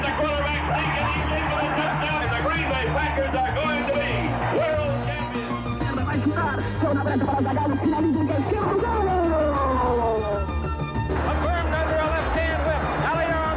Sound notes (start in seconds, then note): 6.2 sportscaster speaking foreign language